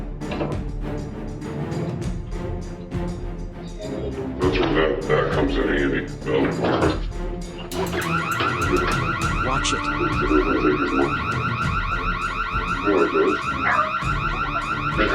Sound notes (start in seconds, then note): 4.3 alarm goes off; 11.2 car alarm continues; 12.5 and other dogs barking